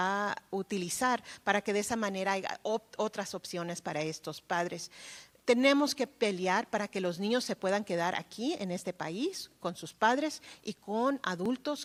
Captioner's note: speaking spanish